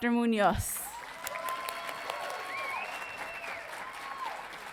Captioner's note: audience cheering